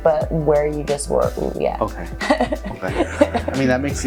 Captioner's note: chuckles